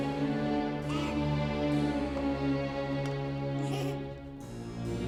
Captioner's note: child giggling; soft dramatic music